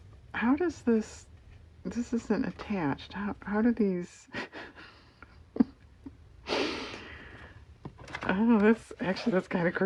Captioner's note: laughs